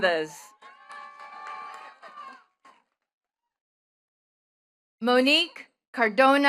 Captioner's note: attendees cheering and clapping